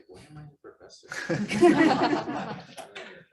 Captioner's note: laughter